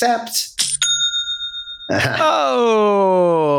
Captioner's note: ding